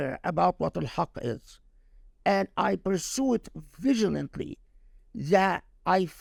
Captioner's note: speaking Arabic